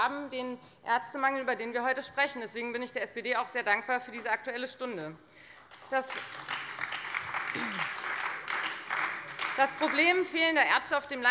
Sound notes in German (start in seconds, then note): 5.5 Beifall bei der FDP und der SPD